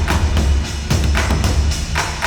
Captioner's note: none